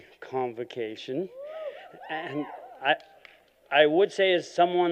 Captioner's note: cheering